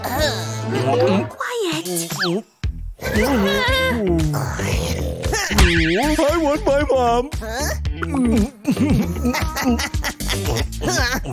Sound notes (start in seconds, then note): 1.3 snoring